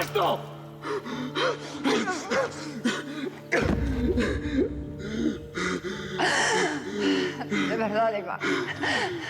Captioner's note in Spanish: estruendo de vidrios